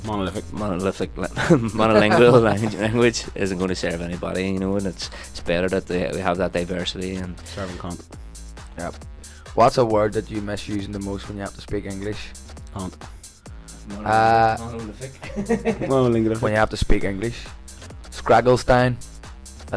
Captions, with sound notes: - Monolithic? - Monolithic, monolingual, language isn't gonna serve anybody, you know, and it's, it's better we have that diversity, and- - Serving cunt. - Yep. "What's a word that you miss using the most when you have to speak English?" - Cunt. - Monolithic, monolithic. (laughs) - Monolingual. - When you have to speak English? Scragall stain.